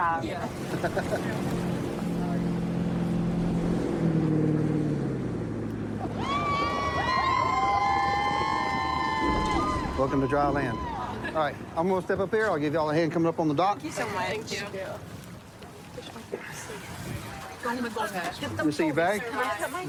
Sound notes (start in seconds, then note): 3.7 laughs; 6.0 cheers